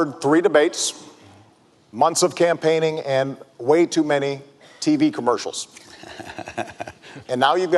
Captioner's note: laughter